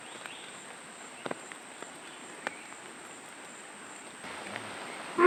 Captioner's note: animal sounds